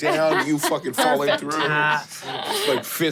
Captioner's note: laughs